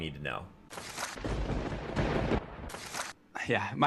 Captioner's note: thunder cracking